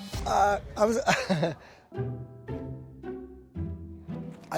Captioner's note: chuckles